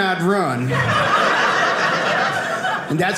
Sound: audience laughing

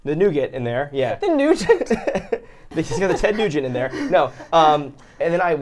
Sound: laugh

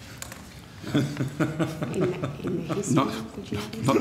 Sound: chuckles

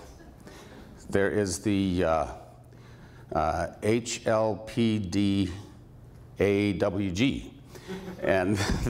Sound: laughter; laughter

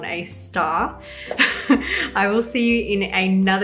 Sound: chuckles

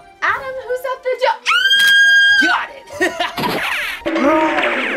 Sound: screams

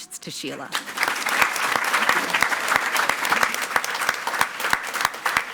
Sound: attendees clapping

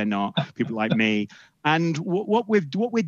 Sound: laughs

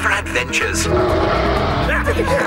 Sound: rrrarh!

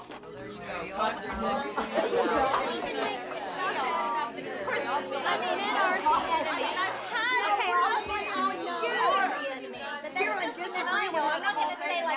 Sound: chatter

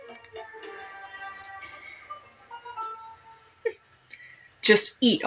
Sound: quiet Laugh

